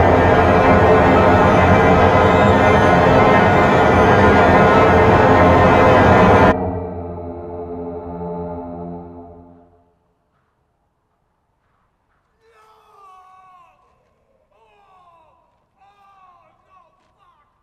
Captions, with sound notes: (distant rumbling) (rumbling stops) No! Oh! Oh, no, fuck!